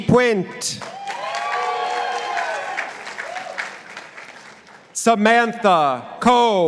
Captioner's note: participants applauding